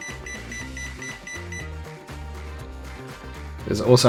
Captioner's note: beeping